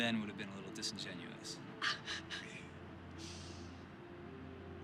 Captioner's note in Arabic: ضحكة مكتومة